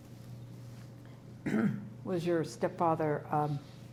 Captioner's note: clears throat